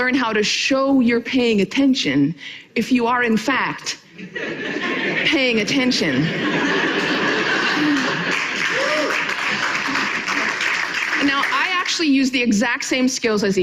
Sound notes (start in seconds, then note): 6.3 audience laughing and applauding